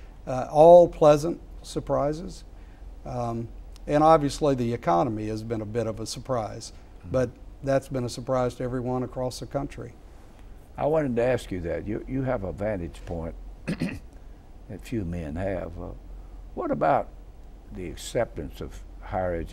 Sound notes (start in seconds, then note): 13.6 clearing throat